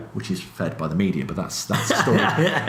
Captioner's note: laughs